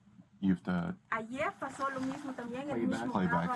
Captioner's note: speaking Spanish